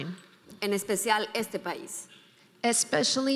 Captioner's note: speaking in foreign language